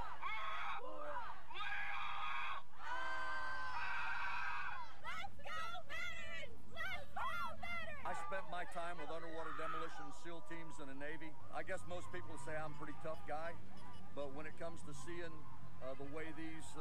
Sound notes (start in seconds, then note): 1.5 leader yelling; 2.8 cadets yelling